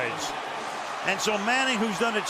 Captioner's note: cheering